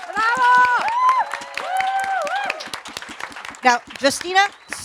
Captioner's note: audience applauds